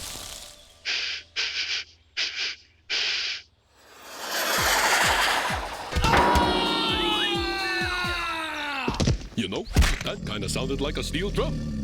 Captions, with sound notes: (sniffing) (metal clangs) AAH! YOU KNOW, THAT KIND OF SOUNDED LIKE A STEEL DRUM.